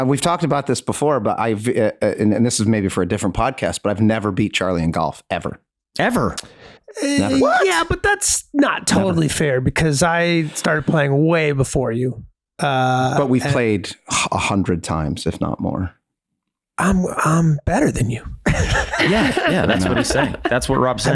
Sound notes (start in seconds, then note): 18.4 giggles